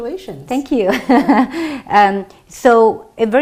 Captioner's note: laughs